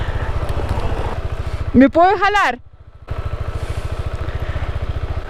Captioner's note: in Spanish